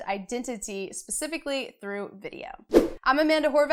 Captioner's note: air whooshing